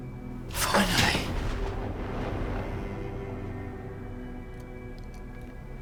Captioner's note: thunder cracking